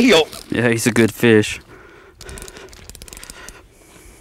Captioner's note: reeling, heavy breathing